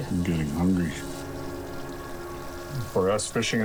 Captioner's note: food sizzling